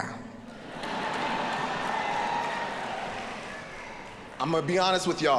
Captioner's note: audience laughing